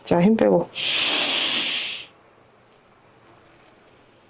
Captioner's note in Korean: 콧방귀